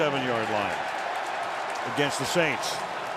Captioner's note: cheering